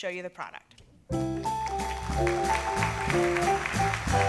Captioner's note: applause